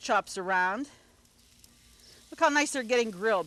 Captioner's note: food sizzles